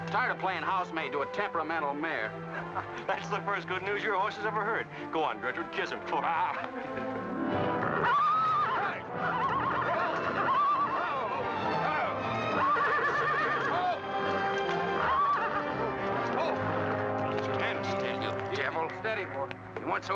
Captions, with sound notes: I'm tired playing housemaid to a temperamental mare. - (chuckles) That's the first good news your horse has ever heard. Go on, Gertrude, kiss him. (horse whinnying) - Whoa! Whoa! (commotion) (dramatic music) - Stand steady, you devil. - Easy, steady boy.